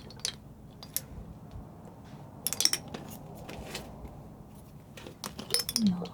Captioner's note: scratching